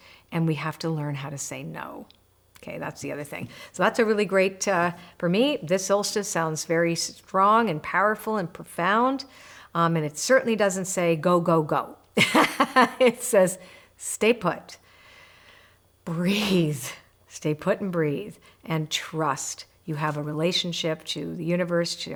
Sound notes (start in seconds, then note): 12.2 laughs